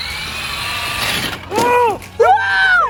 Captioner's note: wheels spinning; foam dragging